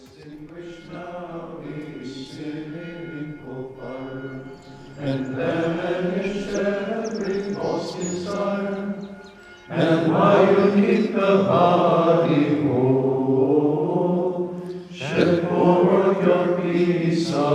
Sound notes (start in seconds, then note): 3.1 bell tolling; 5.0 bird chirping; 8.6 singing continues